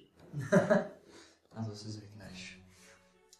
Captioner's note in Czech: smích